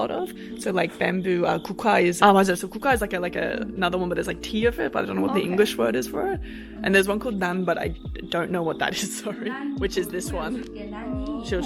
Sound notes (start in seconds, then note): 1.3 speaks in foreign language; 7.1 speaks in foreign language